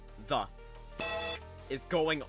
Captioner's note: bellring